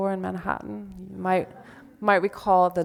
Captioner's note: audience laughs